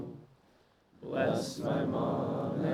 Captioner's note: none